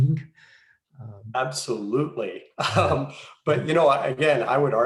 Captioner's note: giggles